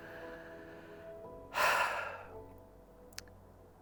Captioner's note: sighs heavily